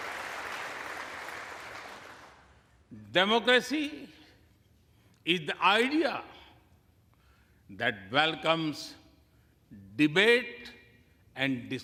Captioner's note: applause